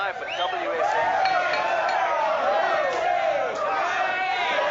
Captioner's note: cheering and clinking